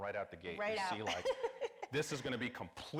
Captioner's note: laughs